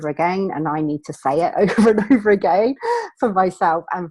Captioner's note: laughing